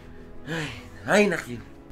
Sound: weeps

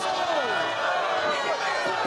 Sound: shouting

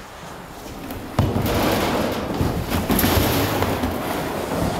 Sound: clanging of kayak

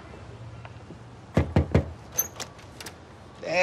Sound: knocking on door

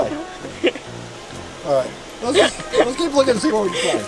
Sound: laughing

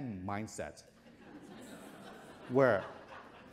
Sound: audience chuckles

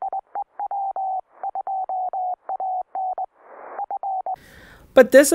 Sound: morse code

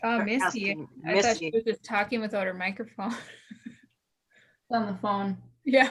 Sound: chuckles

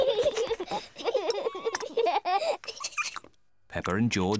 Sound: kids giggle

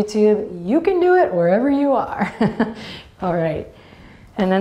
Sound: chuckles

